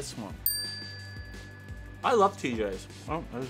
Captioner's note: dinging